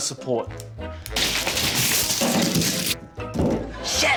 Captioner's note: thud!; onions rustle